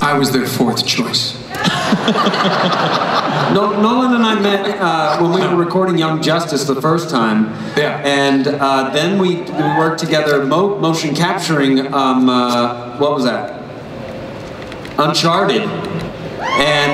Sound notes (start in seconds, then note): 1.6 everyone laughs; 16.3 crowd cheers